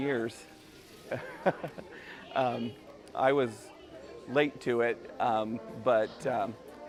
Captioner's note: chuckle